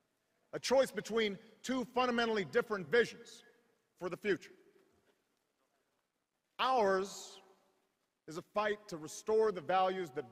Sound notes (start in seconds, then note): none